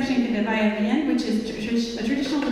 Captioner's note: speaking in foreign language